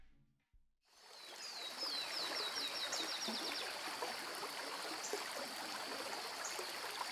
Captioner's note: water trickling and birds singing